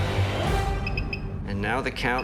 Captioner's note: beeping